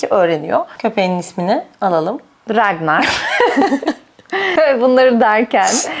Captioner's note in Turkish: kahkaha